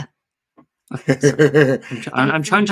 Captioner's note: laughing